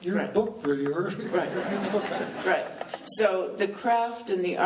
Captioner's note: laughing